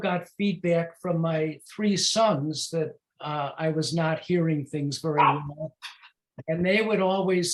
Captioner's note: dog bark